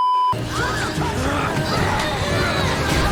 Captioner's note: beeeeeeeeeeeep; strained grunts; gasps